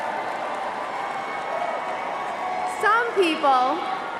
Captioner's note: cheering and applause